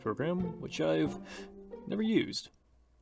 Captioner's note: inhale